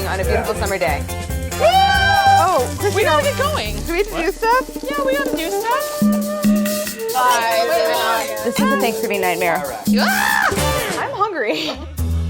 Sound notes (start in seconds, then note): 1.4 group cheers; 7.4 group cheers; 9.9 yells